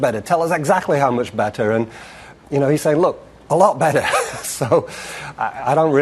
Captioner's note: laughter